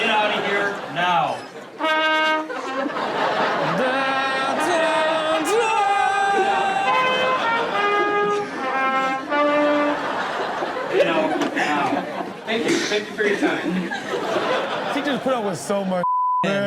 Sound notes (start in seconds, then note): 1.8 blowing trumpet; 6.7 audience laughing; 14.4 audience laughing